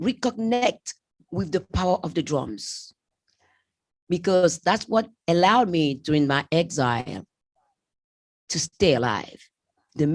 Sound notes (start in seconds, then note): none